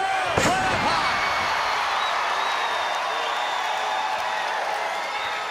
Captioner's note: audience cheering